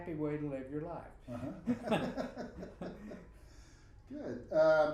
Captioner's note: both laughing